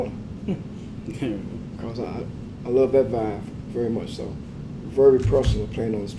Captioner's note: laugh